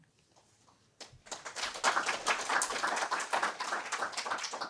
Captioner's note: applause